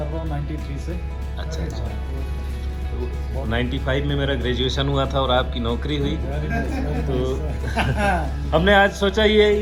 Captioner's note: laughter